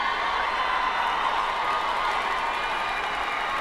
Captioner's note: crowd cheering